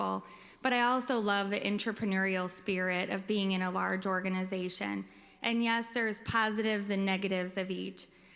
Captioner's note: none